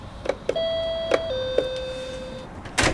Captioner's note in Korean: 띵동